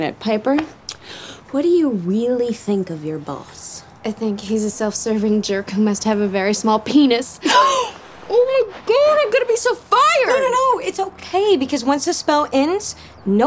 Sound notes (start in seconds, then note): 7.4 gasps